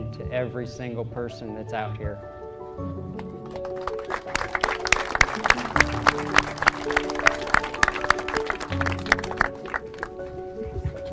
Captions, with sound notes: to every single person that's out here. (crowd clapping)